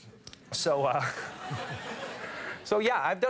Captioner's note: audience laughs